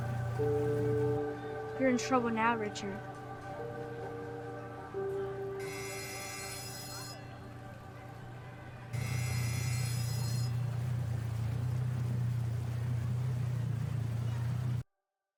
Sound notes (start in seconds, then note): 5.0 bell rings